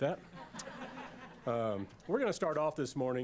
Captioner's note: laughter